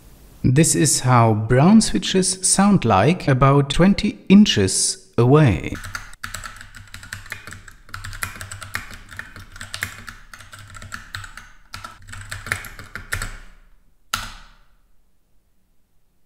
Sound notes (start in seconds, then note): 5.7 typing noise